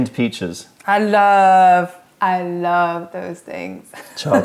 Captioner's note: laughter